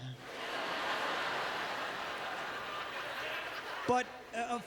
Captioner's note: audience laughter